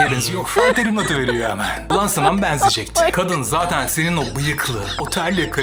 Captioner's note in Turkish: kahkaha